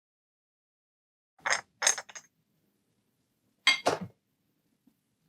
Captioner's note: glass clinking